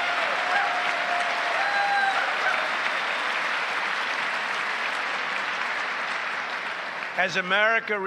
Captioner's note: applause